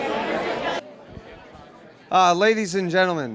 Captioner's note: general chatter